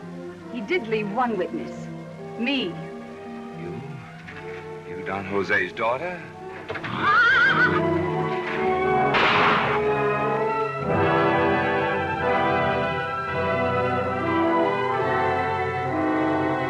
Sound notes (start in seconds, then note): 6.6 horse neighs; 9.1 gunshot; 10.9 classical music